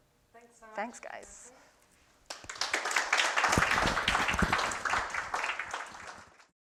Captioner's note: applause